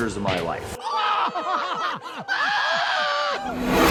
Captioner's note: chuckles